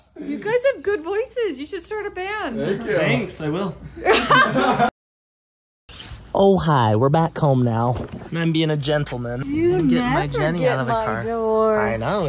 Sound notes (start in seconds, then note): 4.0 laughs